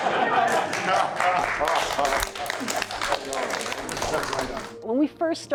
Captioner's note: group cheering